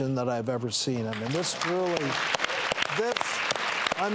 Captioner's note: applause